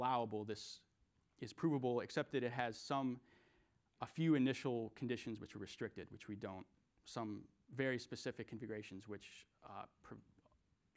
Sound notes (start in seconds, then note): none